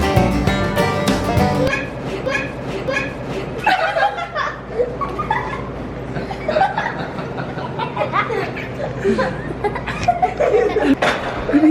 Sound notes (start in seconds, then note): 3.8 children laughing